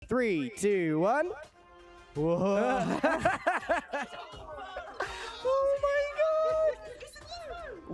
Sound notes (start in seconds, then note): 2.2 laugh